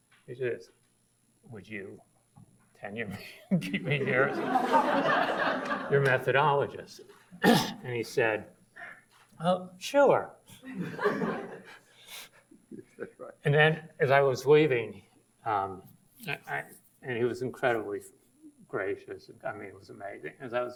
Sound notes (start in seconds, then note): 3.6 audience laughs; 7.4 ahems; 10.7 audience laughs